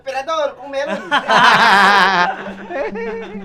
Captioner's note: laughs